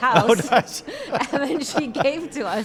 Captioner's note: both laugh